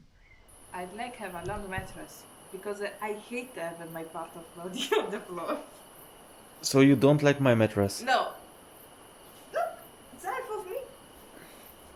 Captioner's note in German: gelächter